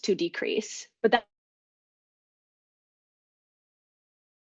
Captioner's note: audio cuts out